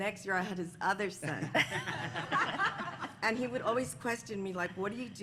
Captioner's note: laughter